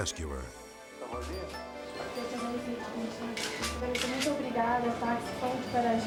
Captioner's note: both speaking in foreign language